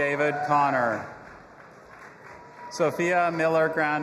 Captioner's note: audience applauding and cheering